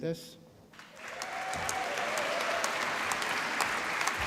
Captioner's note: applause